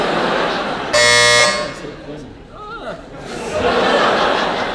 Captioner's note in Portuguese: campainha